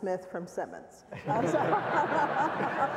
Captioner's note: laughs